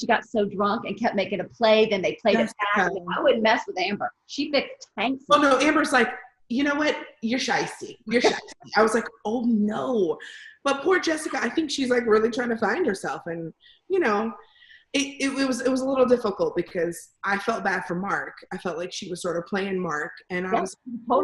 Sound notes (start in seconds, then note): 6.6 normal voice